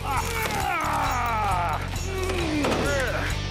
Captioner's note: both grunting